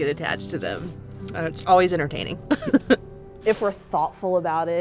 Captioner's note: laughing